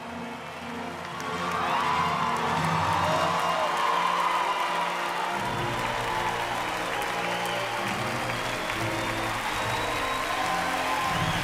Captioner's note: applause